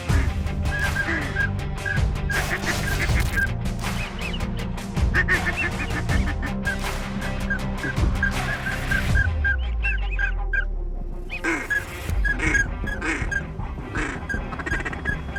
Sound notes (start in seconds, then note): 0.3 rock music; 2.2 duck calls quacking